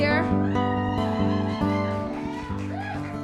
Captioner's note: woman cheers